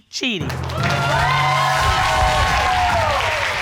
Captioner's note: audience cheering